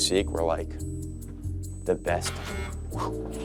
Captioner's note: buzzer